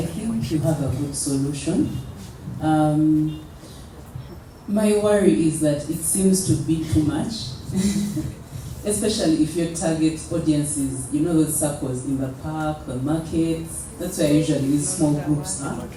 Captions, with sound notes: think you have a good solution. Uhm My worry is that it seems to be too much. (laughs) Especially if your target audiences, you know those SACCOS in the park, the markets, That's where usually these small groups are,